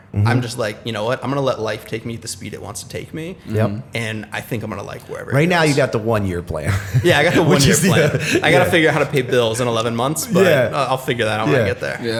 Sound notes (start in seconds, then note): 8.0 chuckle